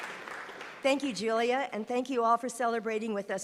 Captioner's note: applause